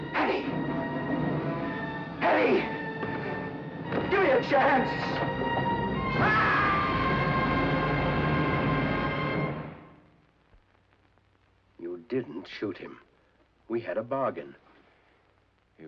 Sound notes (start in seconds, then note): 4.8 dramatic suspenseful music; 6.1 Smiley screams; 6.1 dramatic suspenseful music